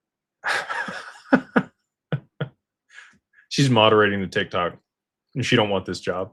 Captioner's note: laughter